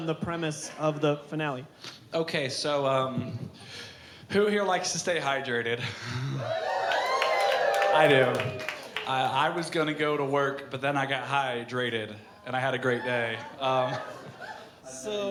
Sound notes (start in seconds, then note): 6.3 crowd cheering